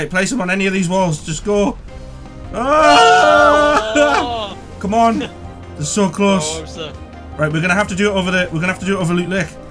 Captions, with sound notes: All right, place them on any of these walls, just go... (screams) Come on, we're so close. All right, we're going to have to do it over there. We're going to have to do it over Loot Lake.